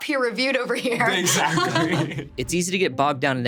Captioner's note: laughing; laughs